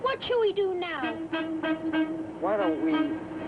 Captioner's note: boat horn honks